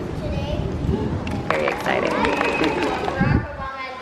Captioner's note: applause